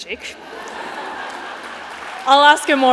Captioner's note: laughter, applause